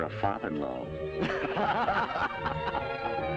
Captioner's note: laughter